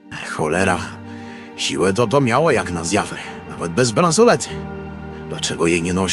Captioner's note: breathless